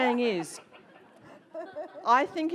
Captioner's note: audience laughs